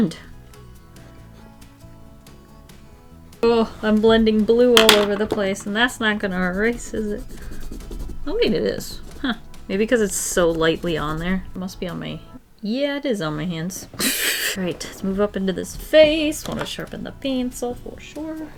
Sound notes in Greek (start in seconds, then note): 13.7 Γέλια